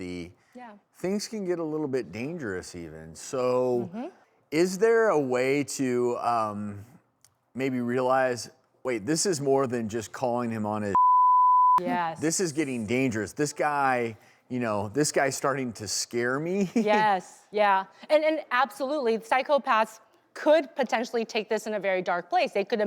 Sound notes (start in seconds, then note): 10.9 beep